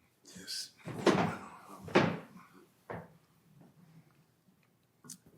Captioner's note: chair rattling